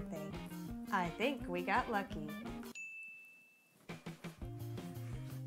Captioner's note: ding